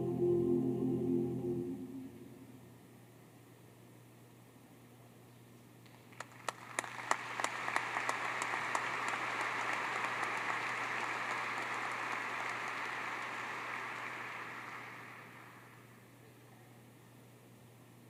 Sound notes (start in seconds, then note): 5.8 applause